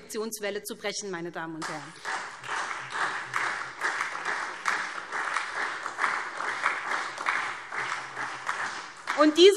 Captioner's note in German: Beifall SPD